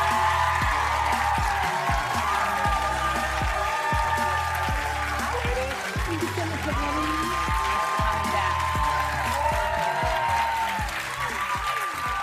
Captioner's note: applause